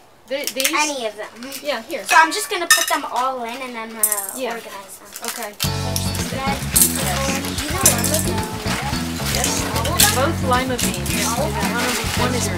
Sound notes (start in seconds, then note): 8.6 kids chatter